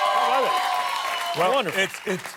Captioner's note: applause